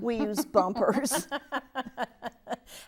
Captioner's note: laughs